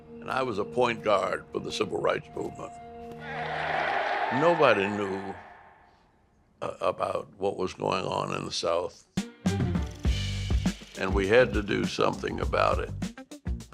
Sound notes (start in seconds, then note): 3.2 cheering